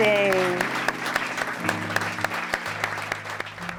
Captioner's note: applause